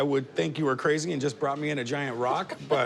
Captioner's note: laughs